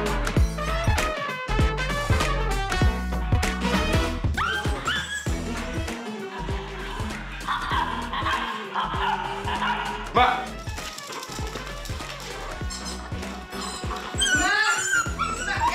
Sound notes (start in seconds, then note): 6.1 arguing